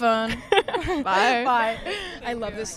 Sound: Sydney laughing

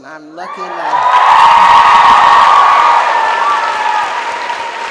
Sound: audience applauds

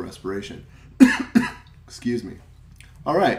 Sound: coughs

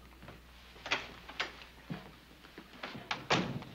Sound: door opens, shuts

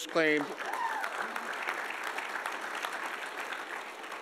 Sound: audience applauding

